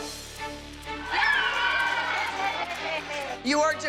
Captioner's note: cheering and squealing